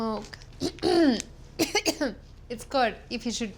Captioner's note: coughs